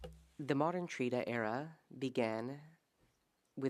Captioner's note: speaking French